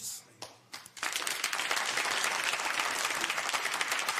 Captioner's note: applause